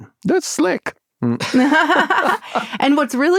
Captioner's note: laughter